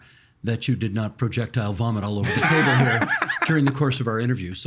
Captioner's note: both laughing